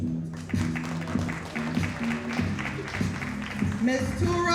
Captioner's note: audience applauding